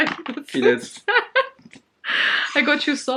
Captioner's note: laughs